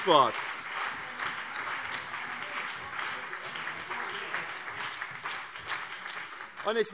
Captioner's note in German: Beifall BÜNDNIS 90/DIE GRÜNEN und CDU - Anhaltende Zurufe